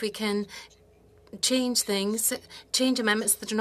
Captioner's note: speaking French